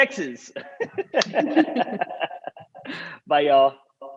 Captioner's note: laughter